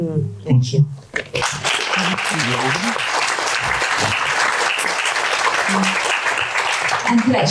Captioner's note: audience applause